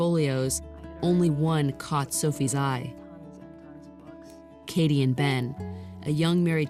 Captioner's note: none